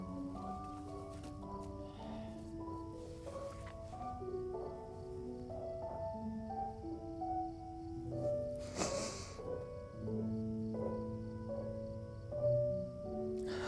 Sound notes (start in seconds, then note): 5.9 gentle music continues; 5.9 insects chirping